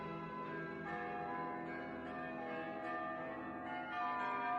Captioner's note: bells Pealing